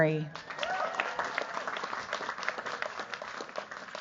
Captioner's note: cheers, applause